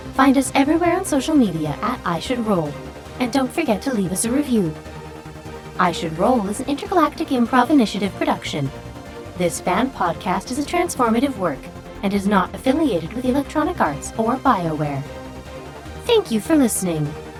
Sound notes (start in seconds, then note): none